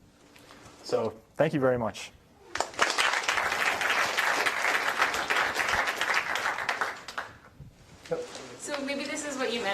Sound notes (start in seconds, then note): 2.5 applause